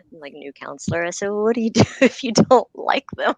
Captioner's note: laughter